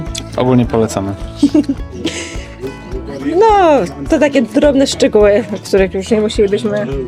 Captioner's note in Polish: śmiech